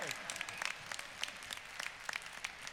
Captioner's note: applause